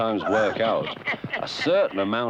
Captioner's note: chuckling